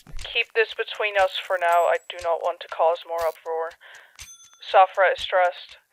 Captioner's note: over the phone